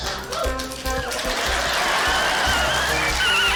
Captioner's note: whistle trills; cheering, applause